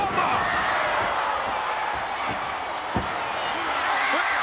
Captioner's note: crowd yelling